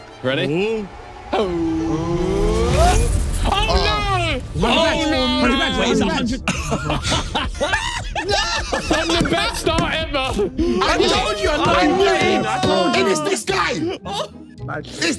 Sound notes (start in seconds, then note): 1.2 suspenseful music; 5.9 everyone laughing